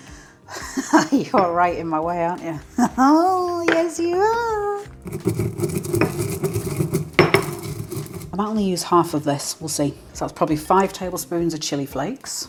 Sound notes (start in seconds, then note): 2.8 laugh; 5.0 stone grinding